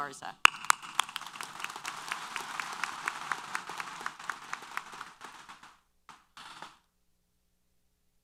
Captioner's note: applause